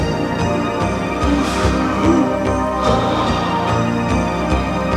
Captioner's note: Anton gasps; slow synth music